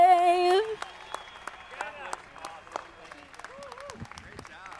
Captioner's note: audience clapping